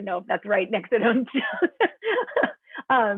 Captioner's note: laughter